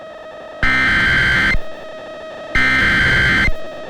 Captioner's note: SAME header tones